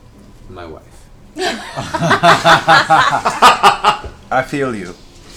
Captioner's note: laughter